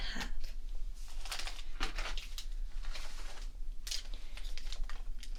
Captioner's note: rustling around